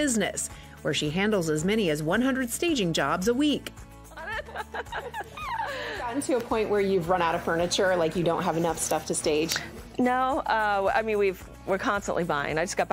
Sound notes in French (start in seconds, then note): 4.1 laughing